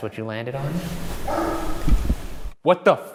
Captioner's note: bark